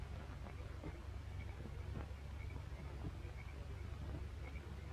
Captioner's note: crickets chirping